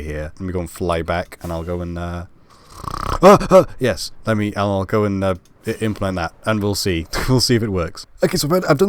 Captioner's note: snoring